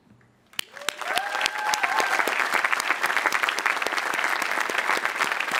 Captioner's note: audience applauding and cheering